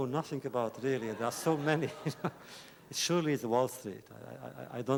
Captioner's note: laughter